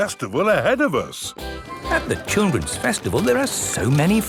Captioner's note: festival buzz and music